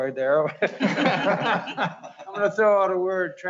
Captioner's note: laughing